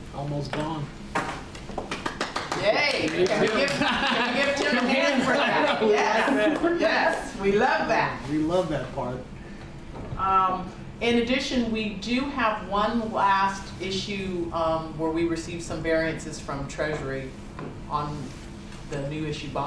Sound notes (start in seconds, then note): 1.8 clapping; 3.4 laughter